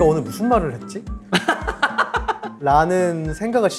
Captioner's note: laughing